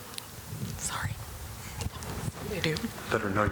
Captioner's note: off mic